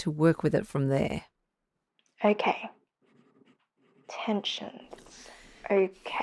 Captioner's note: background SFX: Pen scratching on paper